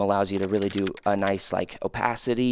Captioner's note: computer keys clicking